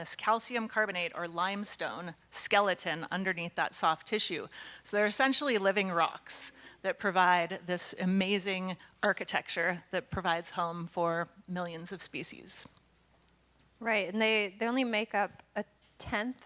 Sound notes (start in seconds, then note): none